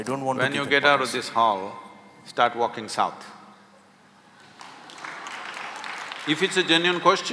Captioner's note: applause